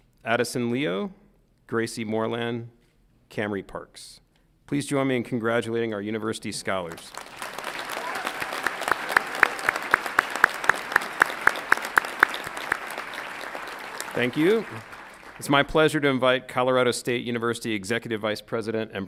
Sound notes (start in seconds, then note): 6.9 audience applauds and cheers